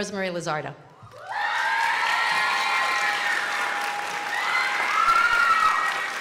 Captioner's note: crowd cheering and applauding